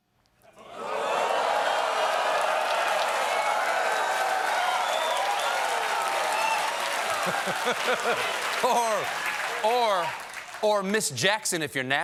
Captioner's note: cheers and applause